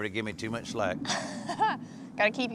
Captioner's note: chuckles